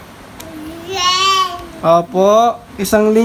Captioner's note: baby sounds